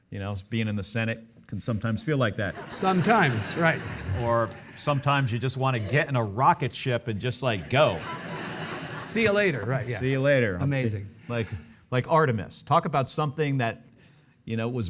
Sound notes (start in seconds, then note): 2.5 audience laughing; 7.5 audience laughing